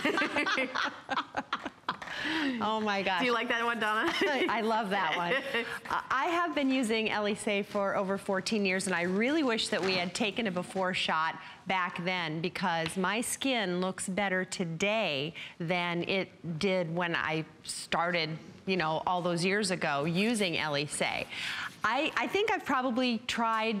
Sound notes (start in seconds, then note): 0.0 laughter